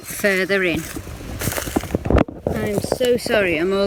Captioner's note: leaves rustling